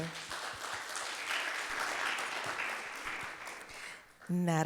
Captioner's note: audience clapping